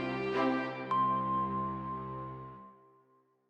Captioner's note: chime